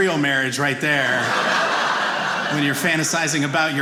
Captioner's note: audience laughing